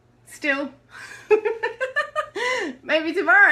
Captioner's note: laughs